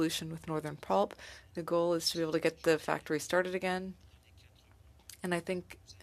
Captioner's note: speaking French